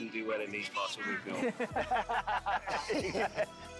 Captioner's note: all laugh